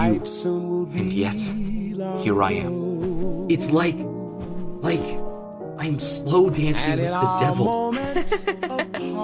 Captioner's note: Katy laughs